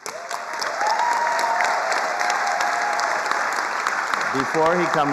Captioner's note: attendees applauding